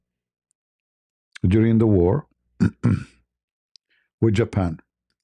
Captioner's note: berdehem